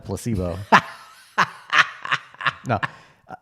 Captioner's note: laughs